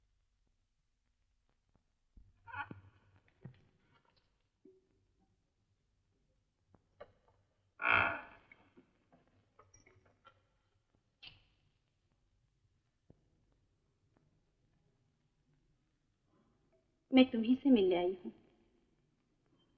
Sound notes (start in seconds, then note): 7.8 door creaks